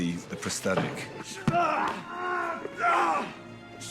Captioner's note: grunting